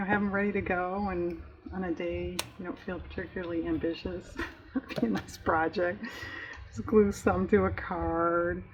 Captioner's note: laughs